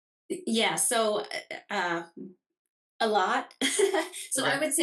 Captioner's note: chuckles